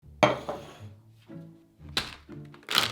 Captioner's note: cup sliding